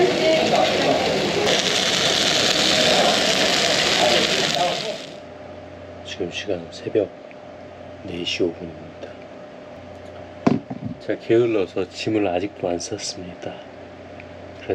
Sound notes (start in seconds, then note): 2.4 sizzling